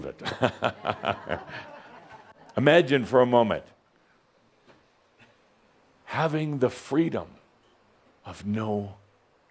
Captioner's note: Adamus chuckles